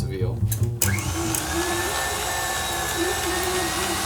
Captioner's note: grinder whirring